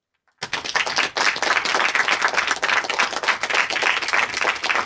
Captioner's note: audience applauding